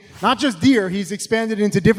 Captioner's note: animation whooshes